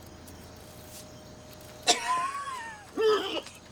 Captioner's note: coughing